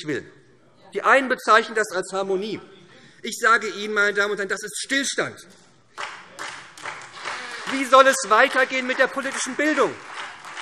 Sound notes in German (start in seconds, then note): 5.9 Beifall SPD